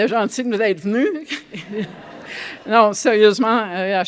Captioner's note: laughter